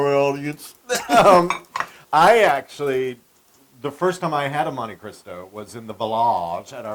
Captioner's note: laugh